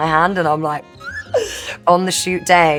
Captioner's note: squeaks